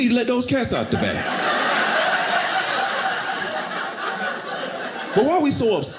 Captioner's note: audience laughing